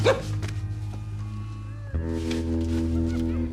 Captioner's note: laughing continues